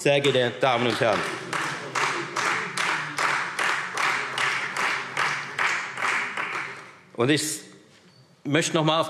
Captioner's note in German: Beifall Freie Demokraten